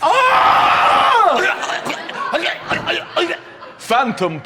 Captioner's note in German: erstickend